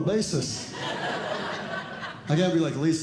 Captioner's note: audience Laughing